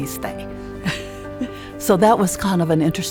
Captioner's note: laughing